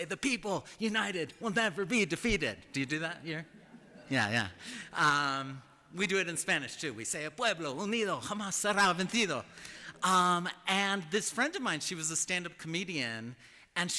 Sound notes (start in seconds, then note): 8.5 spanish